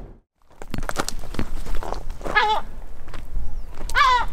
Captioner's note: seagull screams